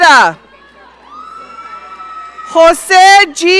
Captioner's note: audience cheering